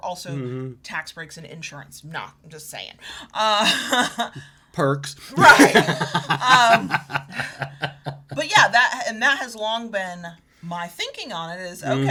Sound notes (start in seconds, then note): 3.6 chuckles; 5.3 laughing